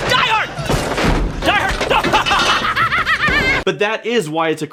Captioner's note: laughs